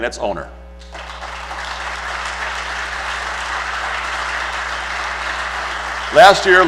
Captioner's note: applause